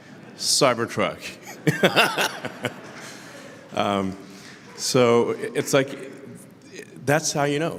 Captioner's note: Laughter; 笑声